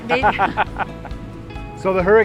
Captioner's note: laughter